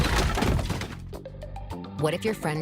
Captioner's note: furniture crumbles